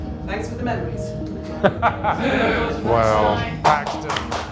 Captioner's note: laughs; everyone applauds